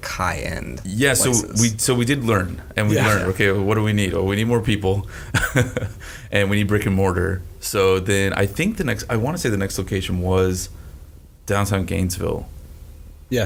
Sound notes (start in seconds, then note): 5.3 chuckles